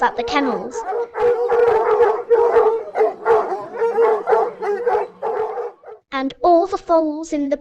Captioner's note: barking